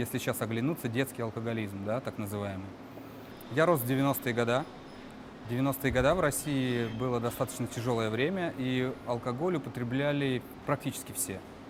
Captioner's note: speaking russian